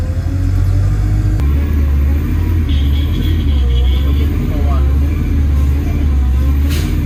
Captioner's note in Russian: звуки буксования